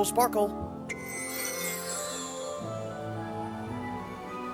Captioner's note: mr. conductor blows his magic whistle